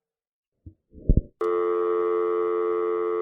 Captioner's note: dial tone